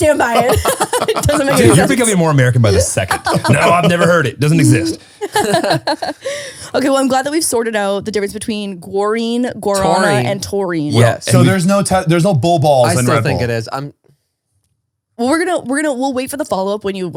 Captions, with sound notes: - I stand by it. (all laughing) - It doesn't make any sense. - Do you think I'll be more American by the second. No, I've never heard it, it doesn't make exist. - (laughs) Okay, well, I'm glad that we've sorted out the difference between guarine, guarana- - Taurine. - And taurine. - Yes. - So, there's no blue balls and red balls. - I still think it is. - We'll wait for the follow up